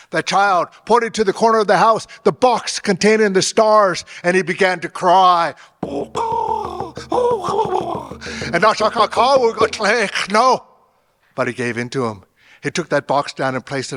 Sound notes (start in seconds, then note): 5.9 imitating bird caws; 9.1 drum beating fast